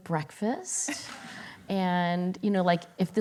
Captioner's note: laughter